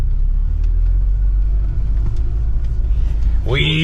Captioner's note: car engine rumbling